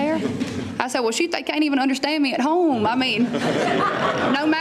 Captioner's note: laughter